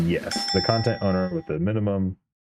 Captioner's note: ding